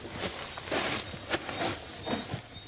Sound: crunch of the earth

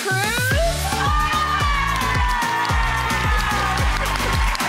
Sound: cheer and applause

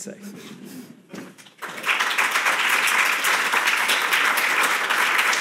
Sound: audience applauding

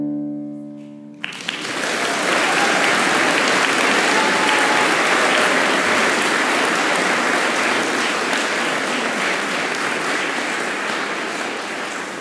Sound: applause

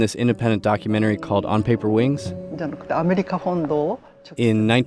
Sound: speaking Japanese

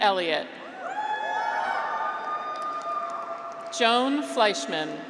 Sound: graduates cheer

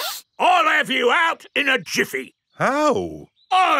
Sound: sniffs

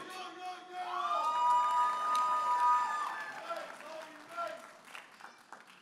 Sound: audience applauding and cheering

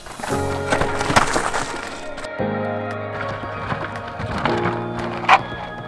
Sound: bike crunching on dirt

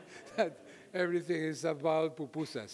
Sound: audience laughing

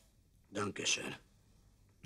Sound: in German

